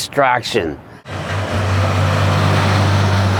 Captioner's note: Traffic